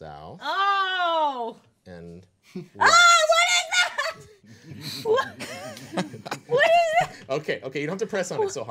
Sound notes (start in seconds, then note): 4.5 group chuckling